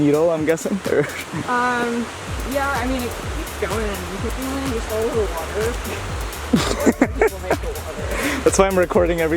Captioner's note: laughs